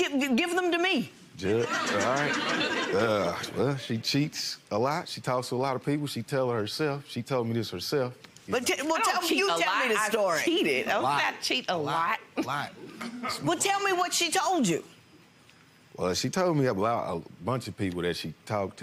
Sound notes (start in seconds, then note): 1.6 audience laughs; 12.9 chuckles